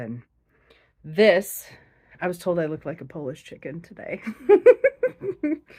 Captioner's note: laughs